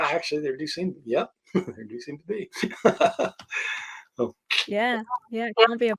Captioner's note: laughing